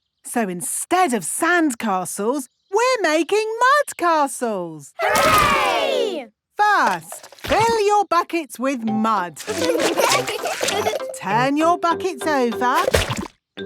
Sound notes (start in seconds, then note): 9.4 laughing